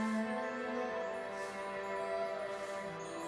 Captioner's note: melancholy tune plays; sweeping; tinkling